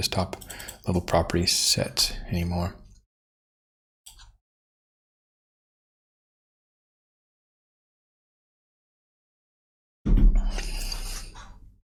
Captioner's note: silence